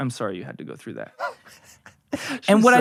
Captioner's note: laughing